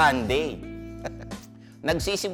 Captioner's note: chuckles